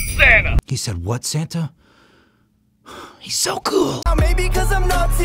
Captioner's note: gasp